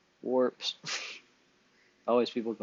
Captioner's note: laughs